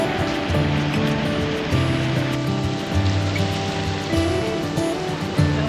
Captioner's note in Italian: Applauso